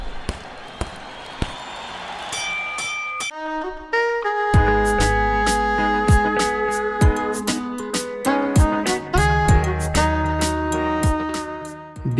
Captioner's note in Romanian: Aplauze